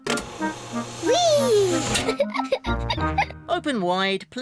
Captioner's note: giggles